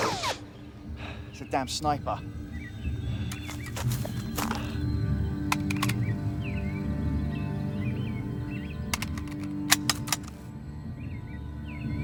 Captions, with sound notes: It's a damn sniper. (birds chirping) (cartridge clicks)